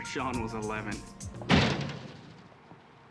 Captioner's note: door slams